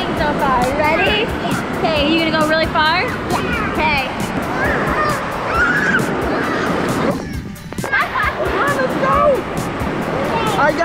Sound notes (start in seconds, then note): 4.2 laughing; 4.2 yelling